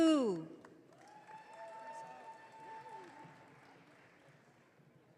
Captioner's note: audience cheering